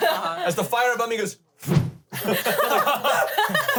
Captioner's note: whooshes